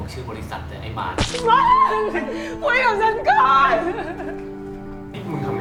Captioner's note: scream